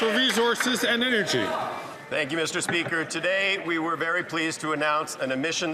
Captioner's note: some Applause